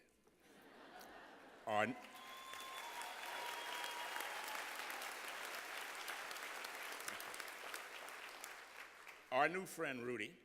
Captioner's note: laughter